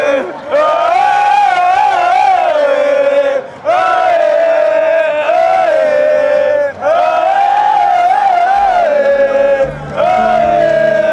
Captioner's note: cheering